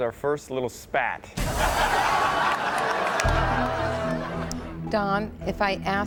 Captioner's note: audience laughs